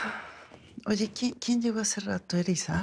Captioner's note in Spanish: Suspiros